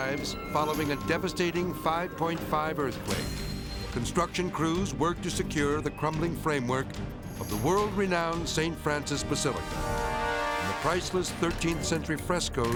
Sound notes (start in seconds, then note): 9.5 dramatic whoosh